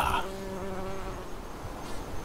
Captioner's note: hum of bees